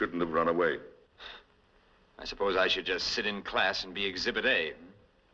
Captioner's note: scoffs